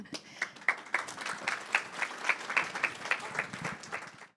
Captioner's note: audience applauds